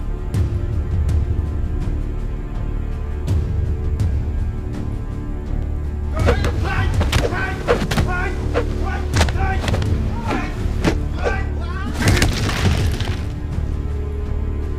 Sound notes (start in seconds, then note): 6.2 whooshing; 6.2 men grunting; 12.0 thudding